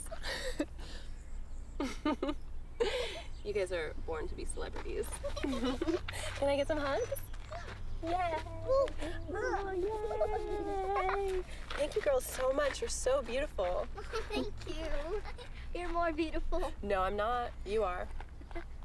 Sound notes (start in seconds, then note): 0.1 laughing; 5.0 girls giggle